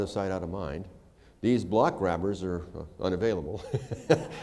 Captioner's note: laughter